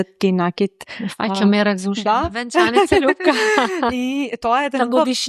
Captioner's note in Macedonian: смеа